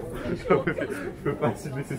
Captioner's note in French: rire